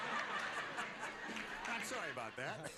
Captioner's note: laughter